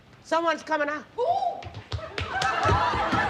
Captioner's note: Mary exclaiming